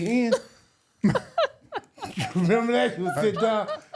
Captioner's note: laughing